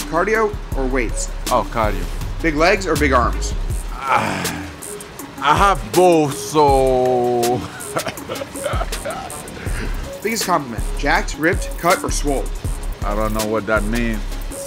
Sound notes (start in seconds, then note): 7.4 laughs